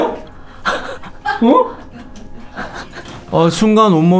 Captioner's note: terrified